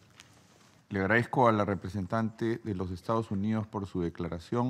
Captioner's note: in Spanish